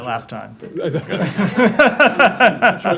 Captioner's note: laughter